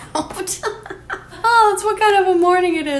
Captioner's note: laughing